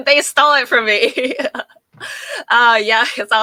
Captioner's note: laughing